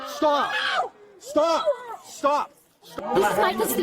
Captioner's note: shouting